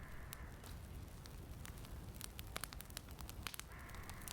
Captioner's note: fire crackling